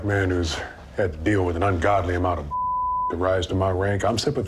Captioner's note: beep